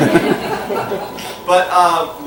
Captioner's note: laughter